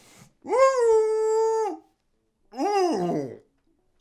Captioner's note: whimpers; groaning